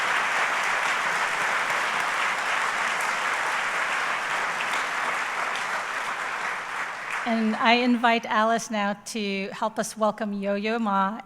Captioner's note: applause